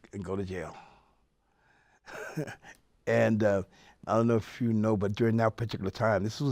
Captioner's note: laughs